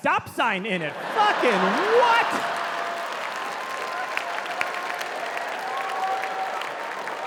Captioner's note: audience clapping